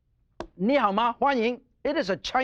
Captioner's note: speaking In Foreign Language